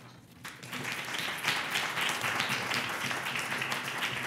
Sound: applause

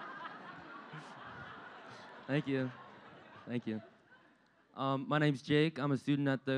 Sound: laughter

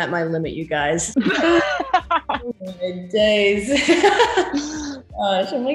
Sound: both laugh; more laughter

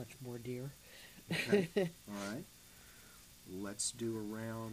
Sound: laughs

